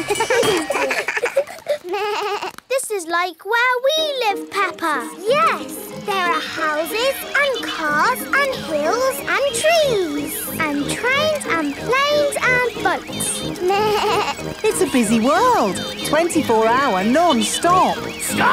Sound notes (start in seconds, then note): 0.0 all laugh; 13.6 bleats